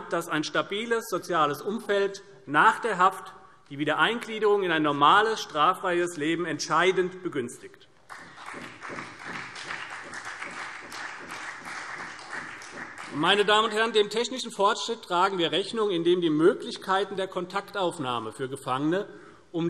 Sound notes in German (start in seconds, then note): 8.1 Beifall CDU und BÜNDNIS 90/DIE GRÜNEN